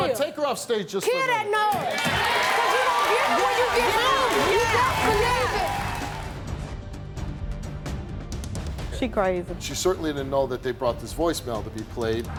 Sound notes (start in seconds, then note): 1.7 audience cheering drowns out yelling; 4.2 dramatic music